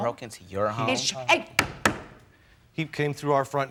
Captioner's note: hand slapping